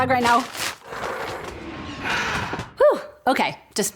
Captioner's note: breathing heavily